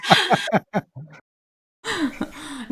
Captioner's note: laughs